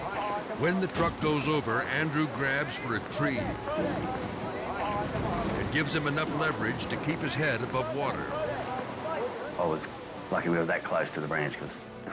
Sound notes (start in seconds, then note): 8.8 dramatic music; 8.8 spectators chatting